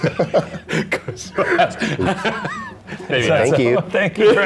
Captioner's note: laughing